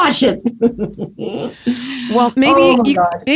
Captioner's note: laughs